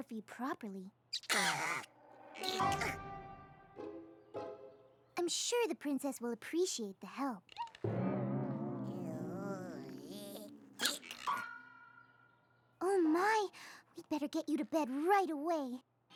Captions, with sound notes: [ COUGHS ] I'M SURE THE PRINCESS WILL APPRECIATE THE HELP. [ WARBLE! ] OH, MY! WE'D BETTER GET YOU TO BED RIGHT AWAY.